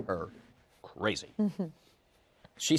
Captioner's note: chuckles